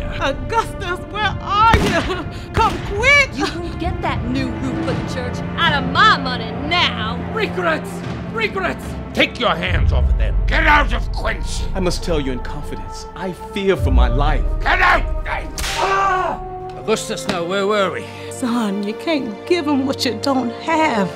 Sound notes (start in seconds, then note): 1.8 gunshots; 15.6 whipping; 15.8 man screaming